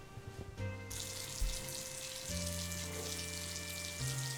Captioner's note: water running